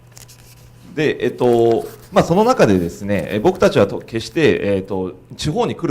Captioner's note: speaking foreign language